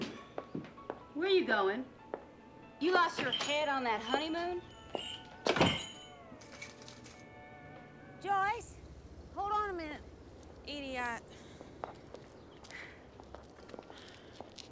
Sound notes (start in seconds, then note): 5.0 shop bell dings; 12.6 sighs